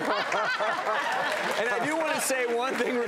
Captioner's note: laughter